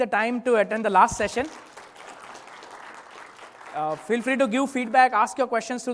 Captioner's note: applause